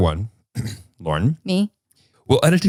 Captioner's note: clears throat